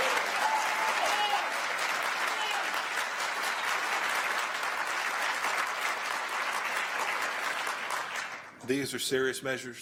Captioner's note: applause and cheers